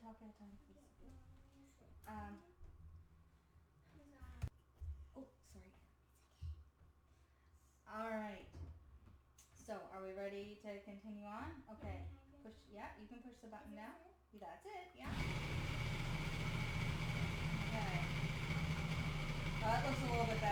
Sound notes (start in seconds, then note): 15.0 blender grinds